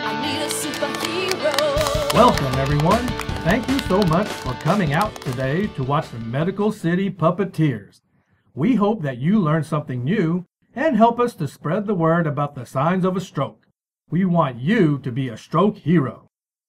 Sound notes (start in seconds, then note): 0.4 children clap